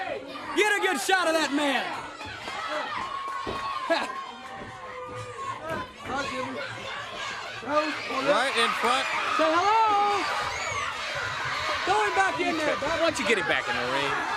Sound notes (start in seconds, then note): 3.2 crowd cheering